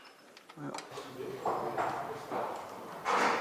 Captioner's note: clacking